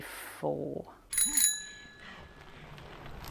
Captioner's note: bell dings